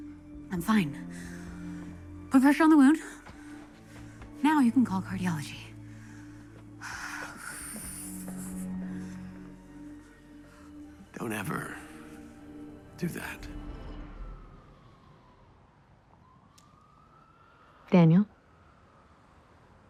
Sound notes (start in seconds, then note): 14.1 sirens blare in distance